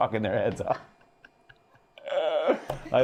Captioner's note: laughter